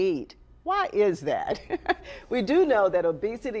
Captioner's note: chuckles